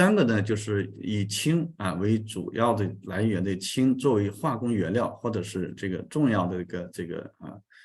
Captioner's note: continues to speak in Chinese